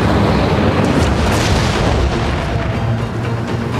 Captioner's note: none